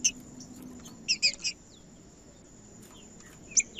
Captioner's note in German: trinca ferro cantando